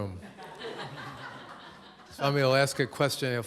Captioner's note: laughter